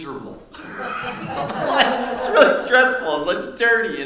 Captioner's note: laughing